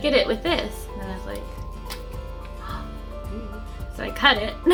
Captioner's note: gasps; giggles